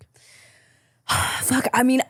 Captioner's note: deep sigh